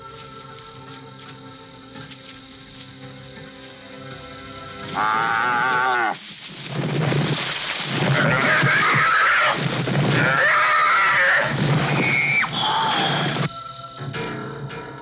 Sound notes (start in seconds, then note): 4.9 cow mooing; 10.1 cow squealing